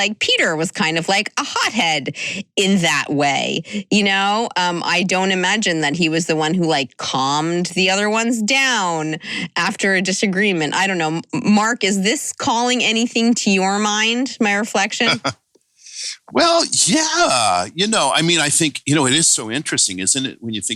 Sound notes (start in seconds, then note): 15.1 chuckle